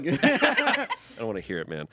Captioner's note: everyone laughs